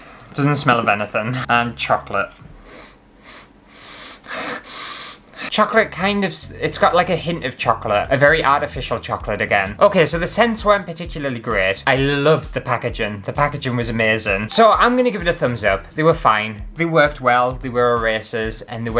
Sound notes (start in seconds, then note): 2.5 intensified Sniffing